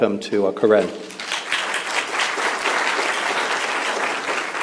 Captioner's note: applause